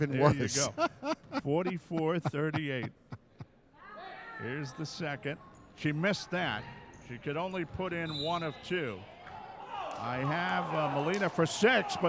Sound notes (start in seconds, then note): 0.3 laughing; 8.0 referee whistling